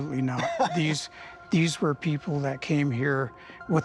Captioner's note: laughs